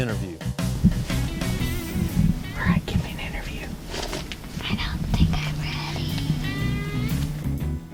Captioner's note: whispering